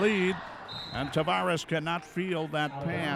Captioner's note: referee whistling